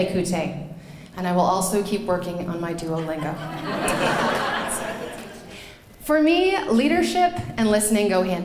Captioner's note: laughing